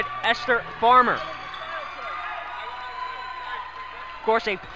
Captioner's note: crowd cheers